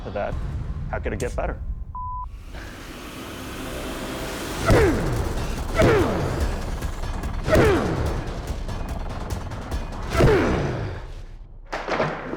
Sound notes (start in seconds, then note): 4.4 grunting; 6.5 dramatic music